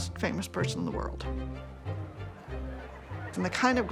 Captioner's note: chatter